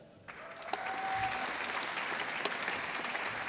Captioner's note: applause